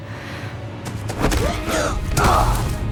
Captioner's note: all grunting